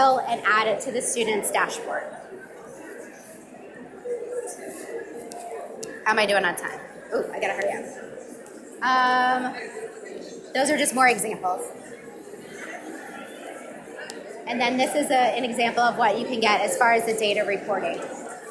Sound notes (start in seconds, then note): 2.3 audience mumbling; 12.1 audience mumbling